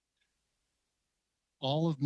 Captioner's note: speaking French